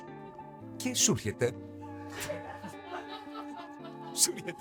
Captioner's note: laughter